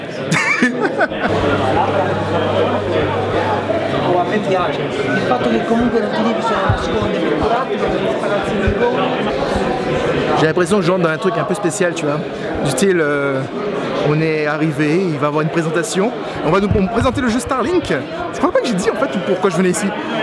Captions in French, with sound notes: *Rire* *Brouhaha* J'ai l'impression que je rentre dans un truc un peu spécial, tu vois. Du style "On est arrivés, il va y avoir une présentation". On va nous présenter le jeu "Starlink". Je ne crois pas que j'ai dit pourquoi je venais ici.